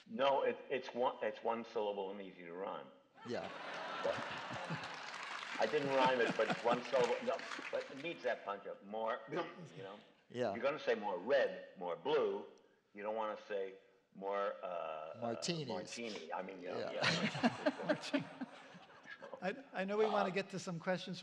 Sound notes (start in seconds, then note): 3.3 laughter and applause; 16.8 laughter